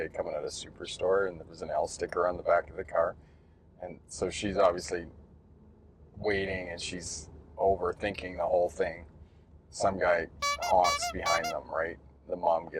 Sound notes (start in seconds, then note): 10.4 honking sound